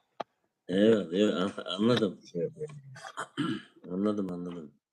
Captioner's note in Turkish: boğazını temizler